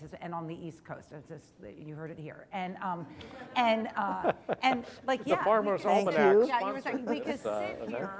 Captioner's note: laughter